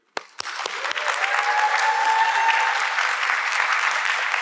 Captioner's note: audience clapping